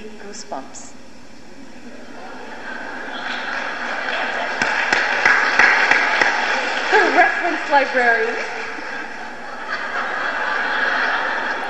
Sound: laughter and smattering of applause

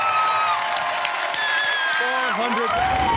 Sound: screams

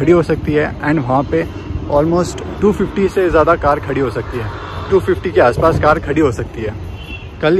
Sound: cars

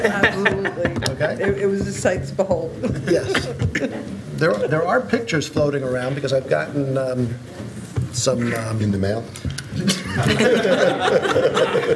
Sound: laughter; laughter

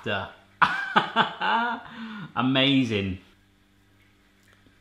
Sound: laughs

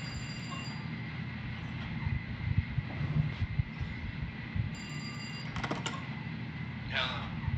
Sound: phone ringing

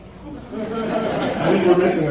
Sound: laughter

